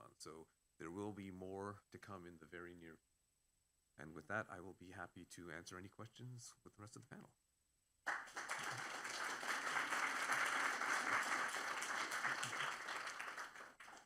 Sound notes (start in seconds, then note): 8.0 applause